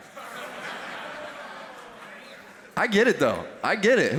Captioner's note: laughter